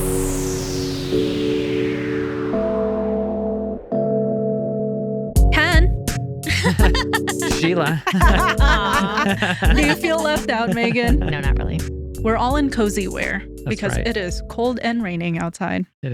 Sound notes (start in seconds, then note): 0.2 upbeat Music; 8.5 laughing